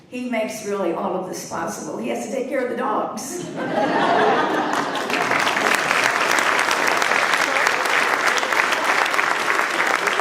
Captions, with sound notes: He makes really all of this possible. He has to take care of the dogs. (laughter) (applause)